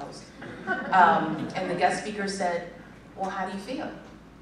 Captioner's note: laughter